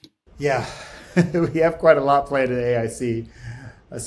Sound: laughs

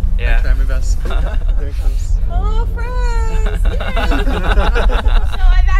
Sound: laughter; laughter

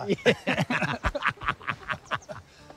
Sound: both laugh

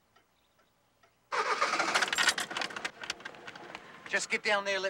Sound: van engine roars

